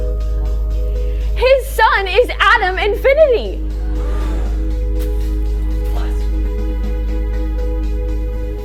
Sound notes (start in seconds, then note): 3.7 crowd gasps